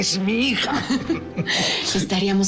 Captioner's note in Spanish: Risas